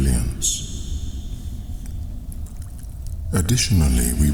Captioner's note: cave noises